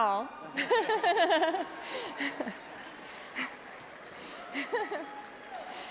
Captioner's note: audience cheering; laughs